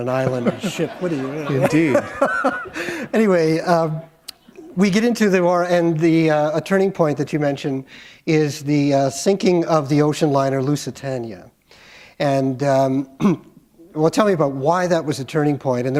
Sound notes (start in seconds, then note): 3.4 laughter